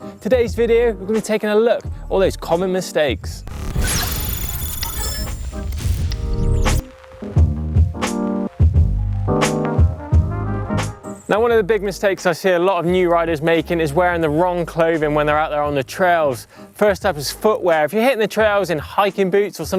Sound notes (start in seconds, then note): 3.4 digital chittering; 7.2 upbeat jazz